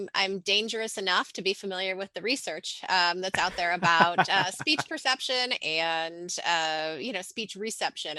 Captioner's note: laughs